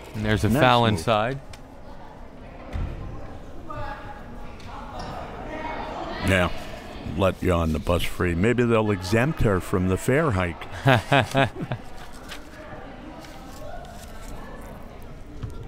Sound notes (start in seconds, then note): 10.6 laughs